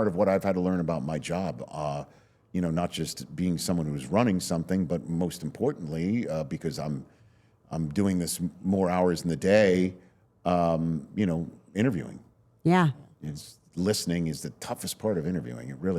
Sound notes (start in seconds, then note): none